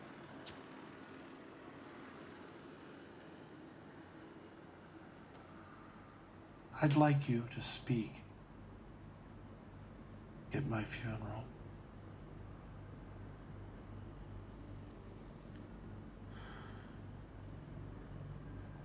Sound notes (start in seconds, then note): 1.6 lighter clicking